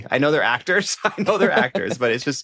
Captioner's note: laughs